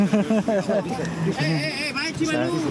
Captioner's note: laughing